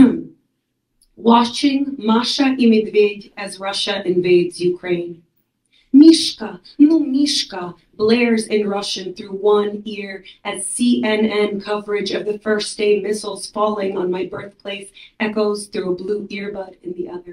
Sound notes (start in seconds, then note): 6.9 non-English speech 01.17.04-01.17.05